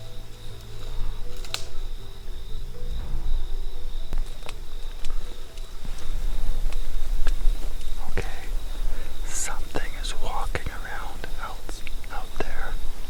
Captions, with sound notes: (twigs crackling) Okay. Something is walking around out there.